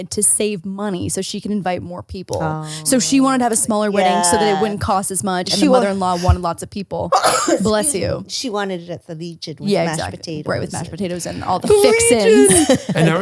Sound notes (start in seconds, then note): 7.2 sneezes